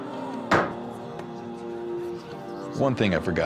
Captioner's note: bangs table